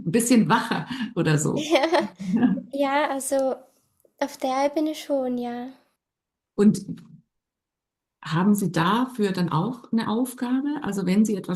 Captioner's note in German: gelächter